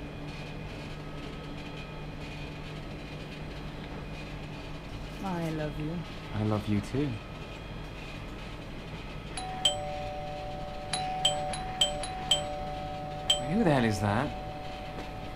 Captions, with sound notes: I love you. - I love you, too. (doorbell rings) Who the hell is that?